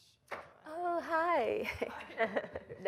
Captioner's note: chuckles